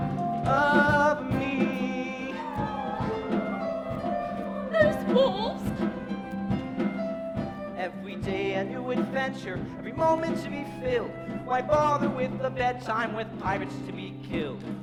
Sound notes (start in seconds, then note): 2.3 howling